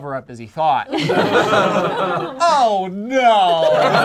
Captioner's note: group laughs